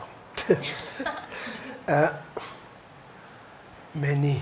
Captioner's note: audience chuckles